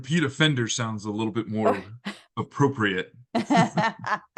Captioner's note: laugh